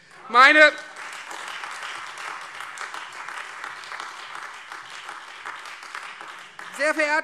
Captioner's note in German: Heiterkeit und Beifall Freie Demokraten und vereinzelt AfD